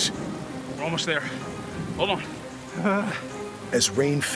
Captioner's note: bartram groans